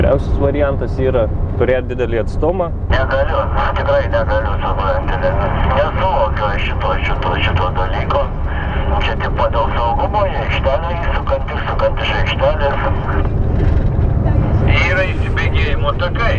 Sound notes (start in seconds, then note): 3.3 people talking on the CB radio